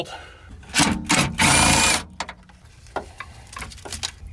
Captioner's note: drill torquing